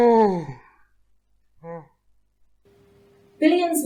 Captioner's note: yawn